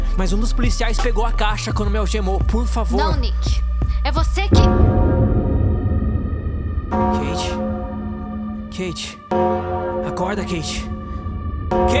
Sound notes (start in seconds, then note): 4.5 cathedral chiming noise